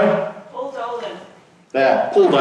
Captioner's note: voiceover